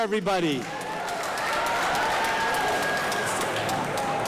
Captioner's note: audience applauding